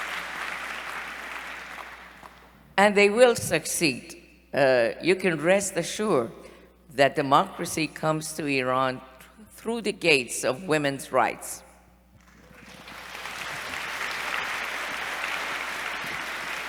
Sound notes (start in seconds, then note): 12.2 applause